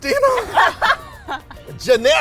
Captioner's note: laughter